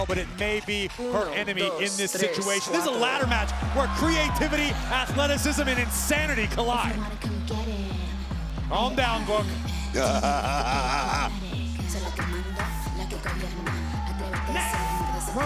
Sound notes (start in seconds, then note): 7.5 theme music playing; 9.9 Booker laughing; 14.2 theme music continues